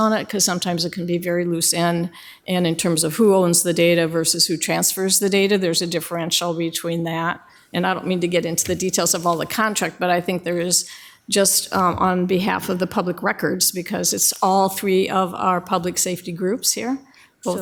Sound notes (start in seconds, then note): none